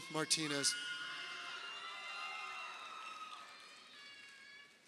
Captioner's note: crowd cheering